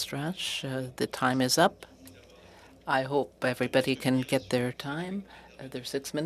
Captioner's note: speaking French